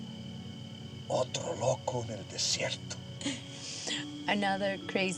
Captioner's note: speaking spanish